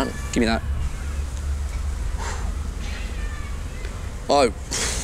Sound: exhales

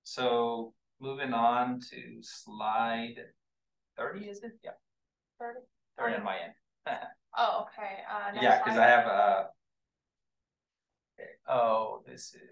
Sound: chatter

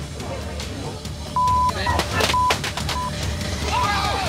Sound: beeping; fireworks popping

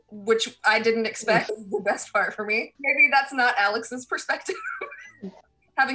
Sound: laughter

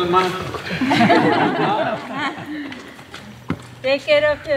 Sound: laughter

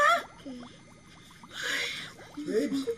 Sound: sighs

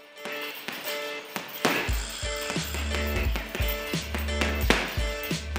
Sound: sounds of punching bag

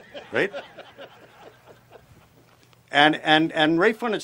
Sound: laughter

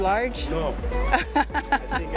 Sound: laughs

